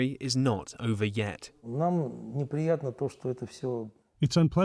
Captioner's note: through translator